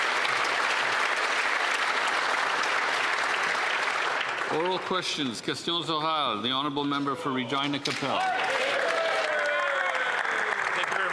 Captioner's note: applause